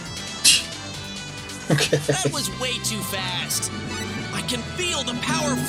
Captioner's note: scoffs